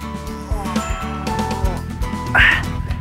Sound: groans

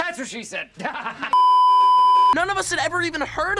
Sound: beeeeeep

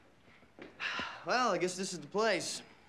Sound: exhales

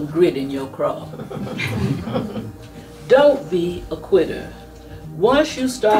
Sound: laugh

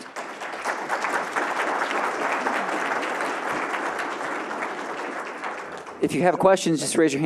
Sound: applause

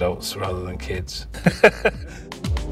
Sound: laughing

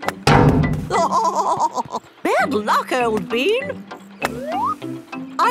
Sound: laughing

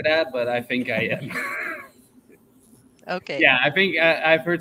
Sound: chuckles

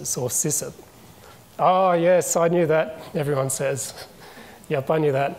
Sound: chuckles

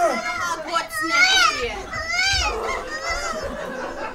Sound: baby crying

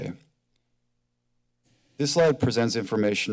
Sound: silence

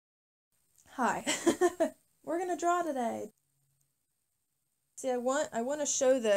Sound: laughs

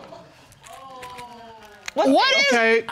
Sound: audience exclaims

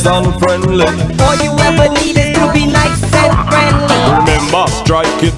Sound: beeps

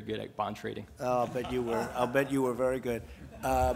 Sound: laughter

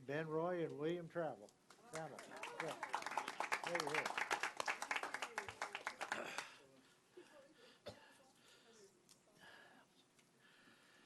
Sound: applause

